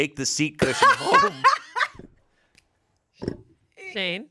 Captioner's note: laughs